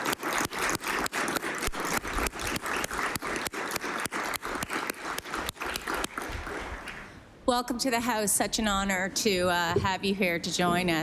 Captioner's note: applause